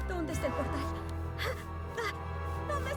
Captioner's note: gasp